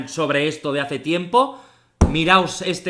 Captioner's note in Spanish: golpe a la mesa